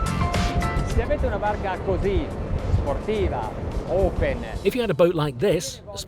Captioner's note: speaks Italian